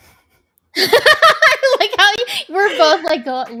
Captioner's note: laughs